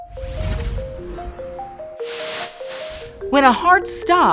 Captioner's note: logo whooshing